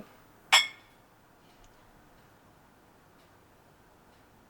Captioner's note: glasses clinking